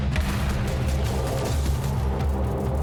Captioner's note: shots